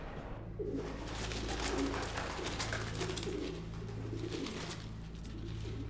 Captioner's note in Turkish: Güvercin sesi; Müzik - Gerilim